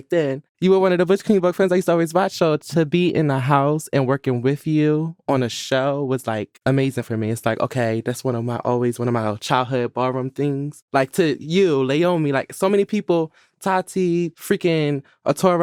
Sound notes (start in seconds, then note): none